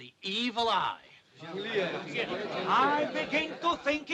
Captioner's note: men clamoring